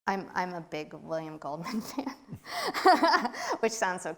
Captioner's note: laughs